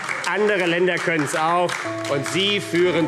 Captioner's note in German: Beifall AfD